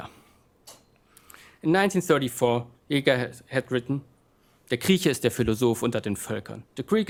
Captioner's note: speaking german